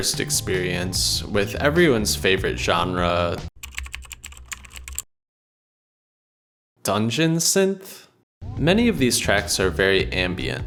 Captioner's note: keyboard sounds